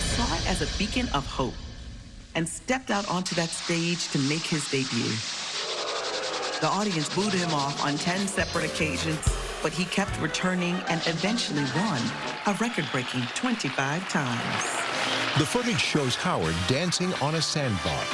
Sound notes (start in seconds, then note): 5.2 crowd booing; 14.7 cheering and applause